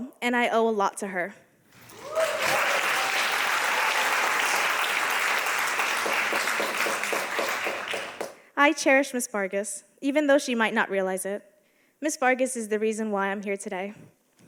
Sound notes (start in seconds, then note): 1.8 audience applauding